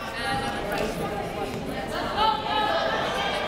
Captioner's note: yelling